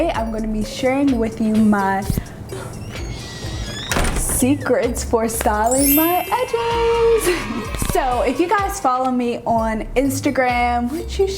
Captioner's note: shhh